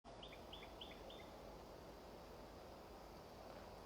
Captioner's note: birds singing